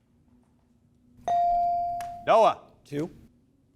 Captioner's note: bell dings